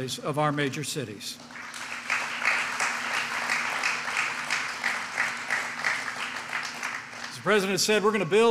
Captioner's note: applause